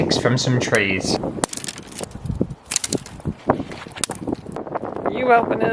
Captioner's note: wind & Twigs Snapping